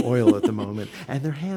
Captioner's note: laughs